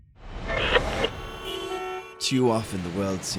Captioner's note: horns honking